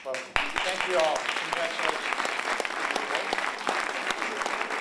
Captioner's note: applause